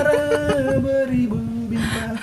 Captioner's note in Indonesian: tertawa